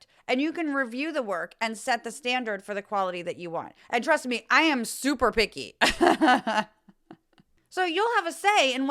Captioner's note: laugh